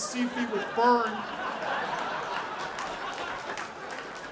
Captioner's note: audience laughing